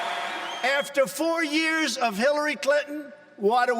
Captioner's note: cheers and applause